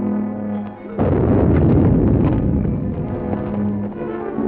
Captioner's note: gunshots